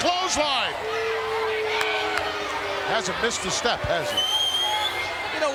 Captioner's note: applause